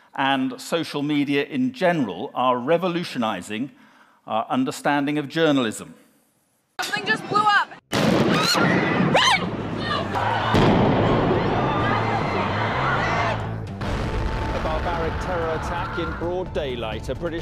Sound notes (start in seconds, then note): 7.9 explosion